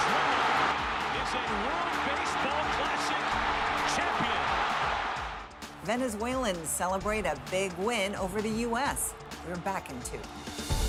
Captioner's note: cheers and Applause